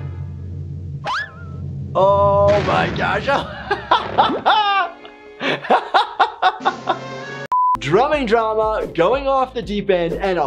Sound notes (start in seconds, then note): 1.0 boing noise; 5.4 laughing